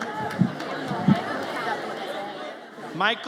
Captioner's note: audience chatters